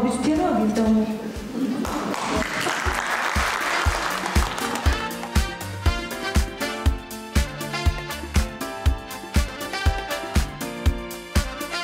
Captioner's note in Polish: oklaski